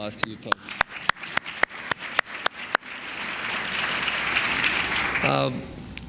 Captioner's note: applause